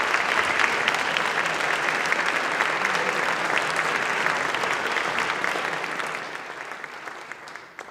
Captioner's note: applause